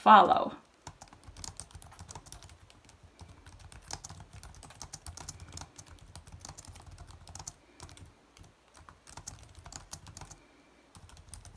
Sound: typing

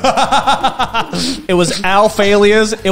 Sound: laughs

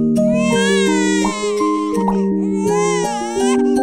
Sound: baby cries

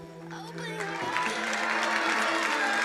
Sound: crowd applauding

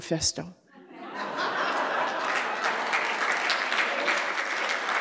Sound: laughter, applause

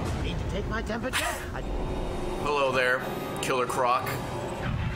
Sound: laughs

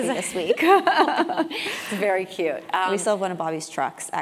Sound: laugh

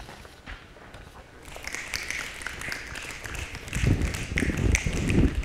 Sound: applause

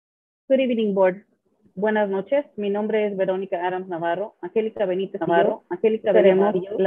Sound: speaks Spanish

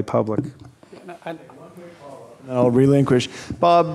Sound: speaking off mic

